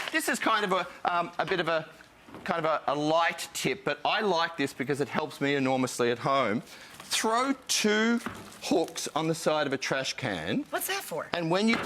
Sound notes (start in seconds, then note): none